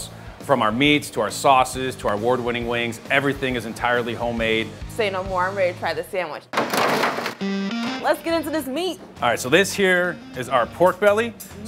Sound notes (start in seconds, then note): 6.6 food falling